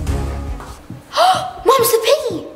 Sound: gasp

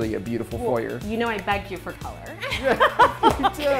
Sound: laughs

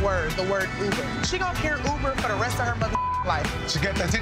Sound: beep

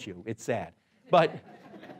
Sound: laughing

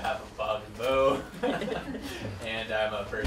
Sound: chuckling

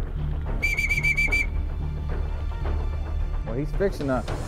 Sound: whistling sounds

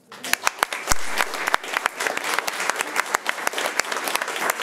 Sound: crowd clapping

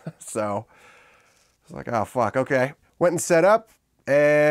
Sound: laughs

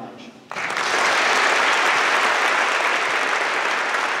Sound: applause

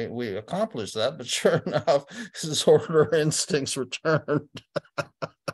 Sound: laughter

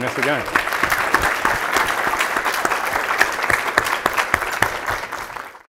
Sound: audience applauding

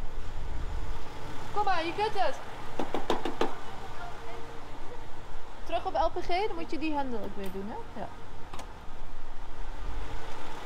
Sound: tapping the car

